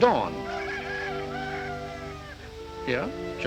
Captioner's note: rooster crows